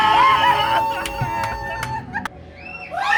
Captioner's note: screams; laughs